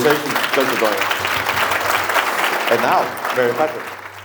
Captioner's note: audience applauds